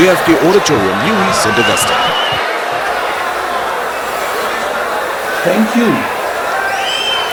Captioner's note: wild applause and cheering for 22 seconds